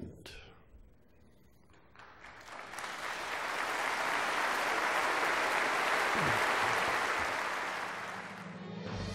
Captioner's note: applause